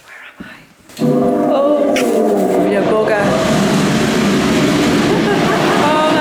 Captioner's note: loud fans going off